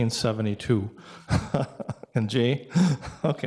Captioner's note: laughs